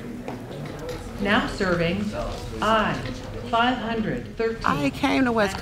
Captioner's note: woman Over Loudspeaker